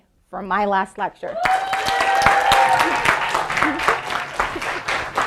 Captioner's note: audience applauding